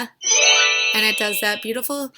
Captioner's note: chiming